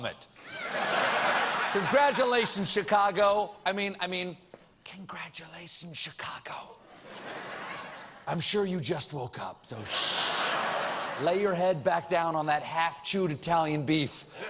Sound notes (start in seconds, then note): 0.4 laughter; 4.6 whispering